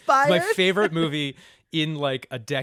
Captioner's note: laughter